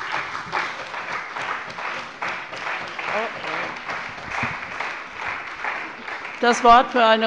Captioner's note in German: Beifall bei dem BÜNDNIS 90/DIE GRÜNEN und der CDU